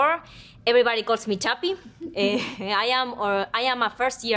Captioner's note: women chuckle